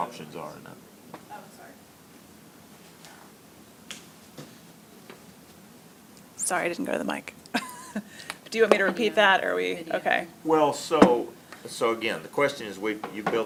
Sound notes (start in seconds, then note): 7.4 laughs